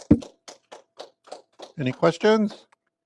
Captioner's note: applause